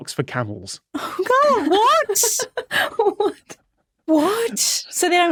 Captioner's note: giggles